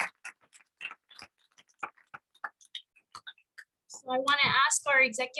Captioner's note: applause